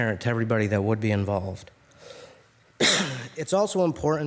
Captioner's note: coughs